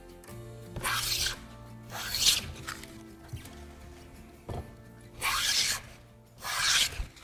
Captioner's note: planing sound